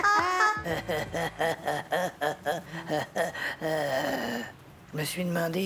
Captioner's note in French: Rires